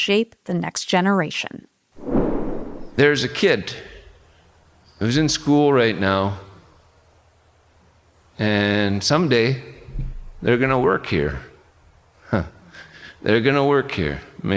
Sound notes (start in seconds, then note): 4.0 scene whooshing